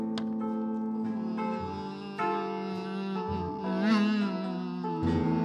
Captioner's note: humming